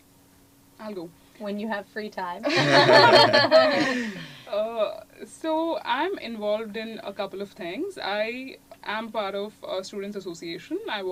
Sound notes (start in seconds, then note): 2.4 laugh